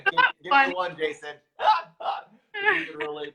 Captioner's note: laughter